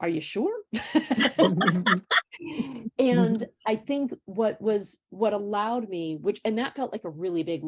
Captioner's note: laughter